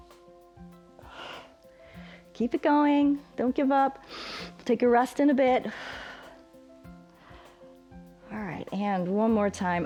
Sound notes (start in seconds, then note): 4.0 inhales; 4.0 exhales